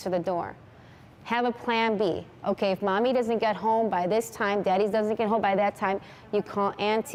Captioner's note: speaking spanish